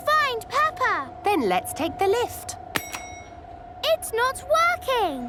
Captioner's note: lift pings